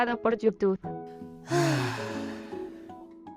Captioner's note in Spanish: Suspiro